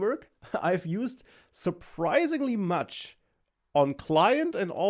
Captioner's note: laughs